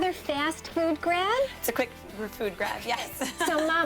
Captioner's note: laughter